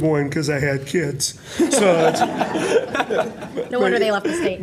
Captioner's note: laughter